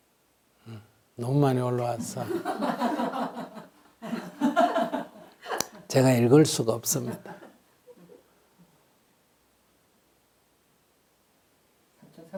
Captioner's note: audience laughter